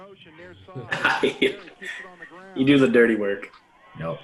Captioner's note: laughs